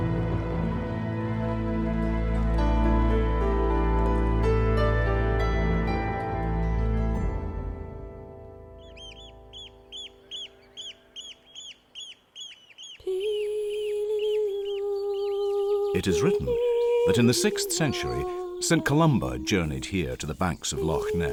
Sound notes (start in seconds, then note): 9.9 birds call; 12.8 female sings in background